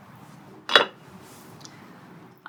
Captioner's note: metal clank